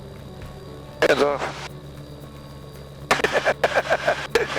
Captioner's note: laughs